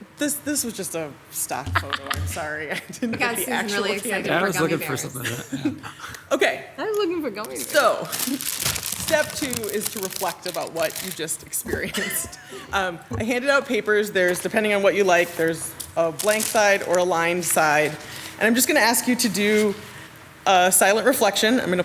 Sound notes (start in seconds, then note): 1.7 council members laugh; 11.8 council member laugh